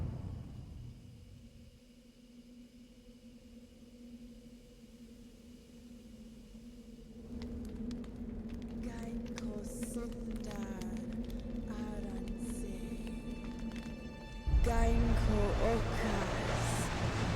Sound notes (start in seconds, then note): 7.7 fire crackling; 8.7 woman chanting in foreign language